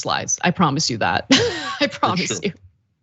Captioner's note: laugh